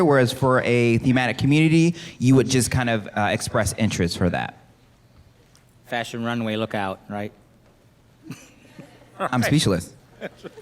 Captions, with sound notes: whereas for for a thematic community, you would just kind of express interest for that. - Fashion runway, look out, right? (laughs) - I'm speechless.